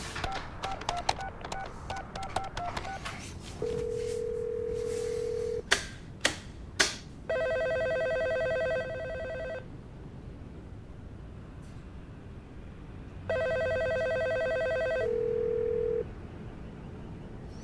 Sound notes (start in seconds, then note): 0.2 sounds of dialing; 3.5 phone ringing; 13.3 phone ringing